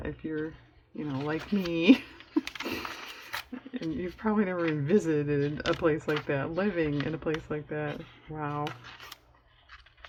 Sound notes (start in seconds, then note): 1.8 laughs